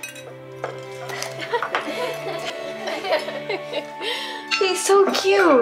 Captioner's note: all laughing